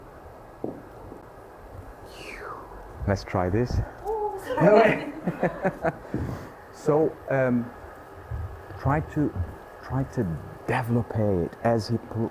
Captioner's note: laughter